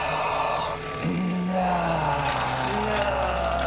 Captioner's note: moans; 呻吟声; exhales; both Grunting; 两人都咕哝着